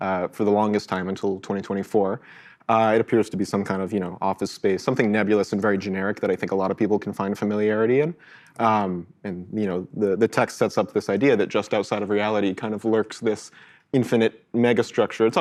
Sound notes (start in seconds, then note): none